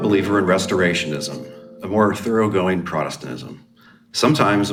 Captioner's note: bell chimes